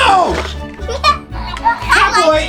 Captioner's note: laughs